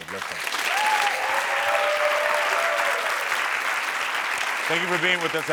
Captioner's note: audience applauds and cheers